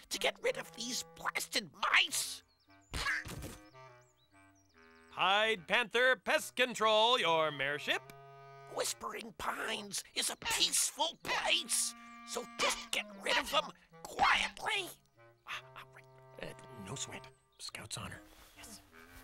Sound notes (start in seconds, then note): 3.2 thud; 15.8 whispers